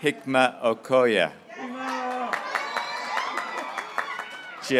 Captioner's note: graduates cheering